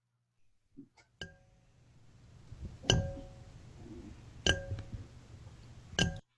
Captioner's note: glass taps several times